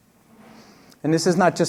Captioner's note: none